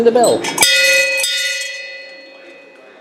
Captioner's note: bell ringing